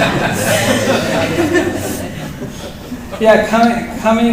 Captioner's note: laughter